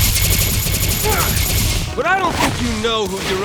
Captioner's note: wincing